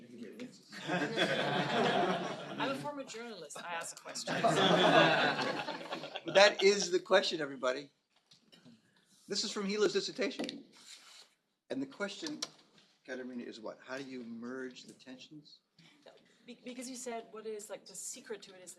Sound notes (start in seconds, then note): 4.2 laughter